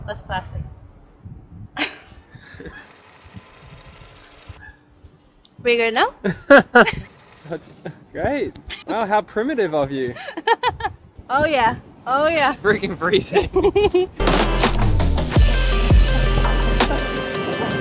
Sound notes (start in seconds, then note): 6.2 laughs; 14.2 upbeat music